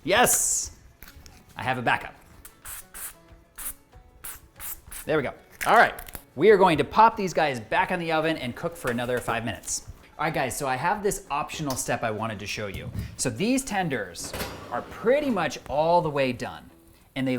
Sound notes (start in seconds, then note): 2.4 bottle spraying